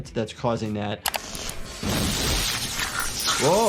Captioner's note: electricity sparking